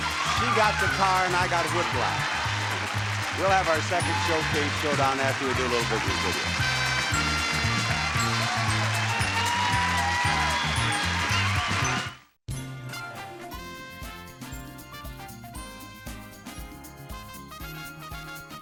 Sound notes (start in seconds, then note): 7.9 audience applauding; 7.9 jovial jazz music